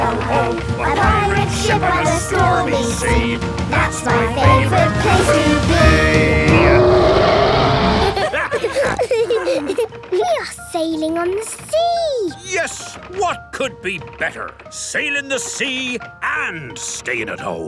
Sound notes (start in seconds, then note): 6.1 roaring; 7.9 snorting; 8.0 laughter